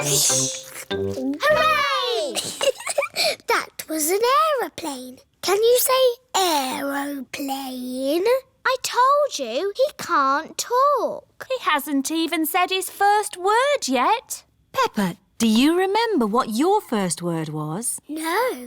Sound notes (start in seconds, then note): 2.2 giggles